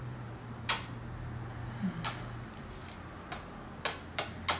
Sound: odd little moan and kisses

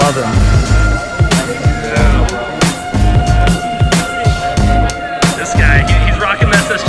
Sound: electronic music; indistinct crowd chatter

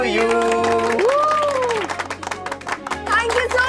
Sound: clapping

